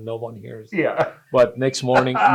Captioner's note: laughs